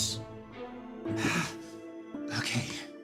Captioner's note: Tharrick Sigh